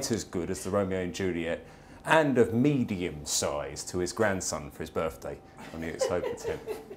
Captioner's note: laugher